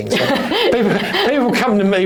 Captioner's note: chuckles